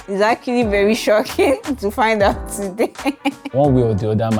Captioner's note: laughs